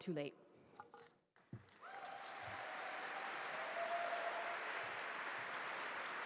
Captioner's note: applause